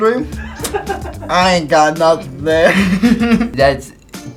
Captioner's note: laughs; laughs